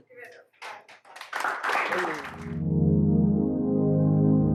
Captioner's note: applause